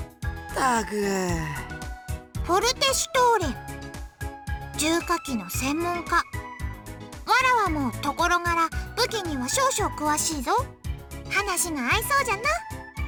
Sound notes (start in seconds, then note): 1.3 sigh